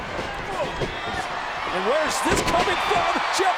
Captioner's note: audience cheering